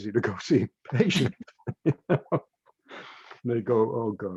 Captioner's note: laughs